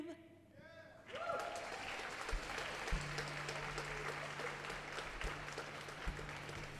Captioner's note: audience applauding; audience cheering